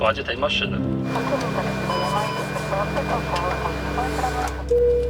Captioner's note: ATC and controls sounds